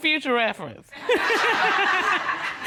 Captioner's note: laughs